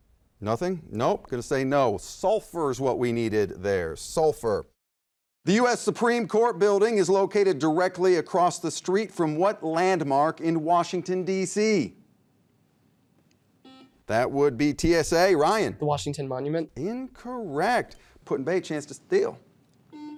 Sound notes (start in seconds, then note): 13.6 beep; 19.9 beeping